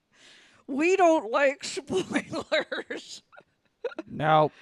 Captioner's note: laughs